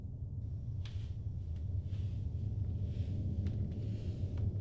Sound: footsteps

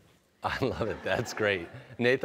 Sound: laughing

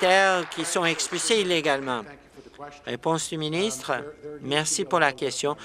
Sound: applause

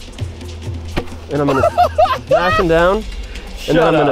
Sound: laughing

